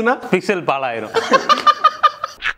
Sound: men laugh

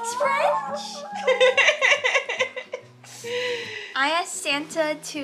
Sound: laughter

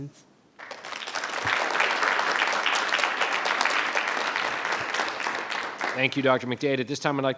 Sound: applause

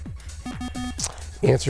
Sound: bell

